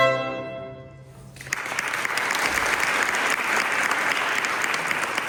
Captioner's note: applause